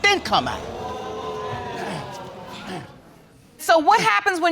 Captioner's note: audience exclaims